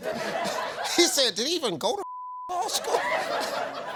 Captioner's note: beep; audience laughs